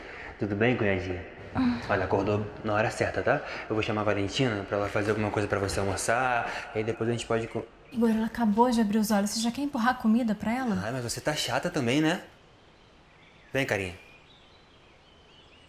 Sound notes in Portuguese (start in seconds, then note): none